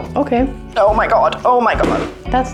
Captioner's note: bang